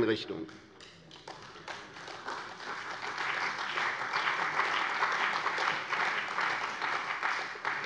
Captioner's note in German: Beifall bei der CDU und dem BÜNDNIS 90/DIE GRÜNEN